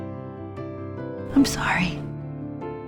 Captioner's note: voiceover